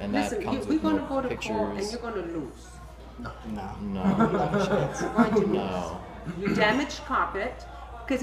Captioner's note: laughing